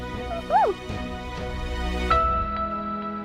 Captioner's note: whooping !